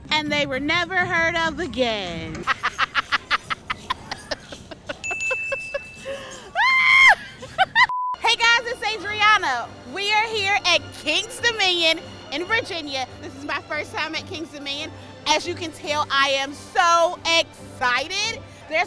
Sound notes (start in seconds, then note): 2.4 laughs; 5.0 bell dings